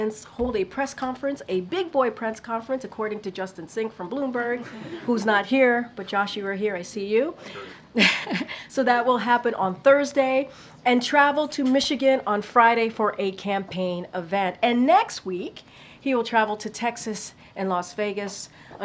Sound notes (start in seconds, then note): 4.6 laughter; 9.0 laughs